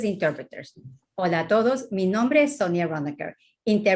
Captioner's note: speaking spanish